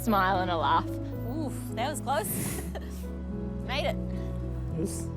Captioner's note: both chuckle